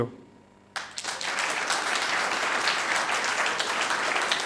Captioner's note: audience applauding